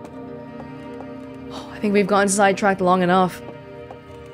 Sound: sigh

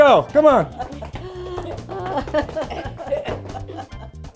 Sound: tap dancing; laughter

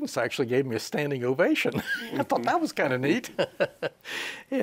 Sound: he laughs

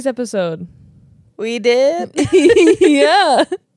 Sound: laugh

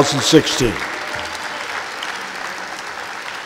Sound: applause

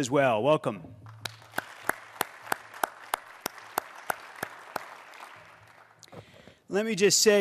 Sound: applause

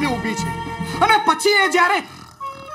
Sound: snorring

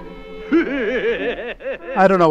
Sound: sun laughing mischievously

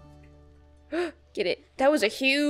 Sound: gasps

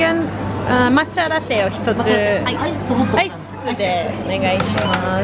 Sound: speaking Japanese

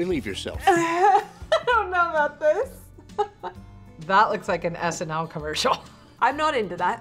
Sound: laughs

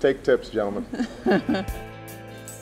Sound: laughs

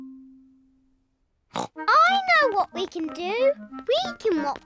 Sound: snorts

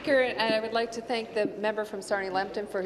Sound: applause

